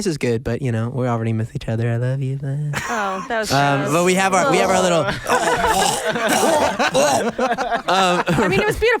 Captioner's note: vomiting sounds